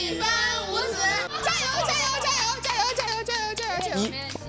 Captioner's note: coughs